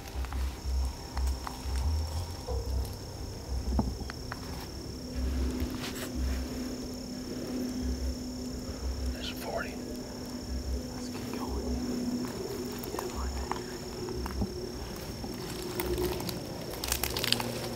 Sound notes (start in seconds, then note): 9.8 whispering